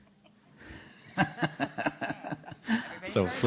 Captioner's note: laughter